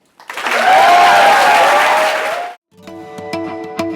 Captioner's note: applause